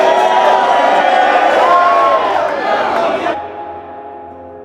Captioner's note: audience chattering